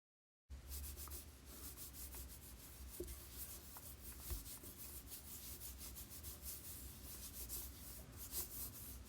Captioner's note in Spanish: Sonido de lápiz trazándose en papel